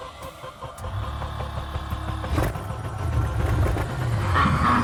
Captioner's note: engine starting; evil laughter